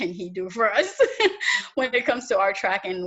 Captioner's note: laughs